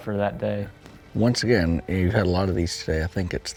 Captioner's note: voiceover